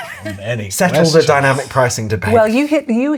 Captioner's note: laughter